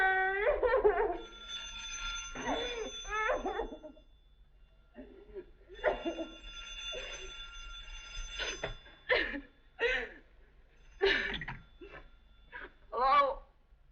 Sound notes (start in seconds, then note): 1.1 phone Rings; 4.7 rings